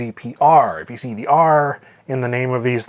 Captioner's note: none